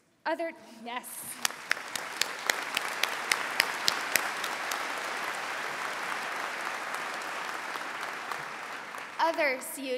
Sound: applause

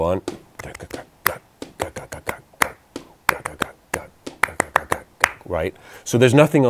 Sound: claps; claps, humming

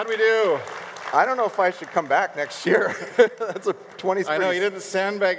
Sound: laughs

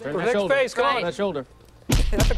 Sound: laughter

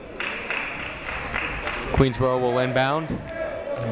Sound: clapping

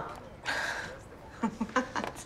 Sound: laughing

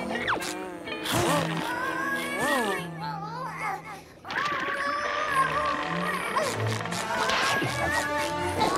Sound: grunting

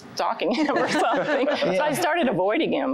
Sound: laughter

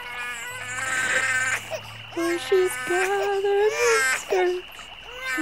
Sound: quiet, through tears

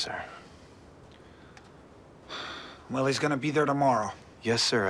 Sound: sighs

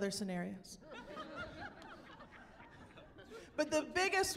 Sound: laughing

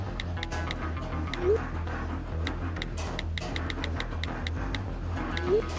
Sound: text messages delivering

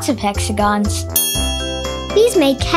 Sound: bell dings

